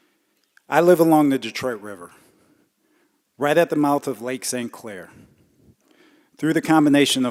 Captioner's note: none